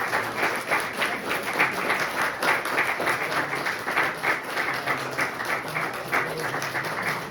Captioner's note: crowd applauding; speaks faintly